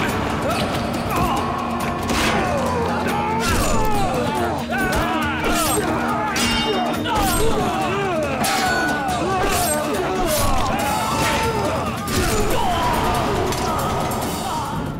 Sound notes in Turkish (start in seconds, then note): 2.0 Dövüş sesleri; 3.0 Kılıç sesleri; 9.0 Müzik - Aksiyon